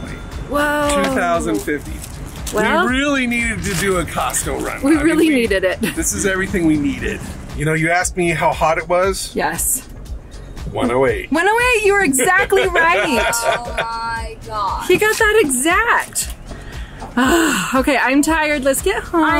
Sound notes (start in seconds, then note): 12.1 laughs; 17.1 groans